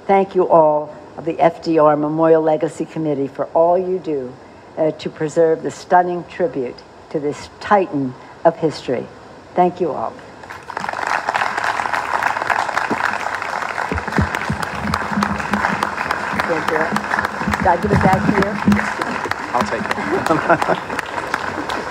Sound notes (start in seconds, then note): 14.3 applause